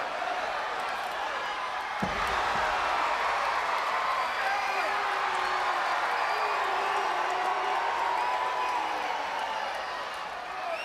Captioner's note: crowd chatter